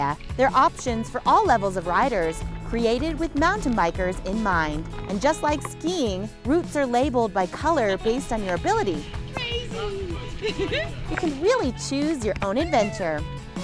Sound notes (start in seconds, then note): 9.4 laughing; 13.4 upbeat music